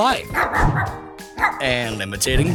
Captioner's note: barking